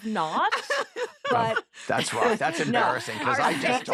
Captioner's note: laughter